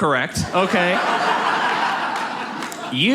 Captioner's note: audience laughs